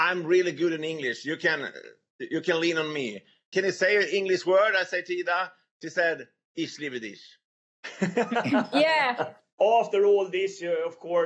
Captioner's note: speaking foreign language